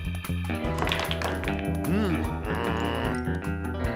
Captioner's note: groans